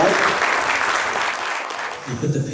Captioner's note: applause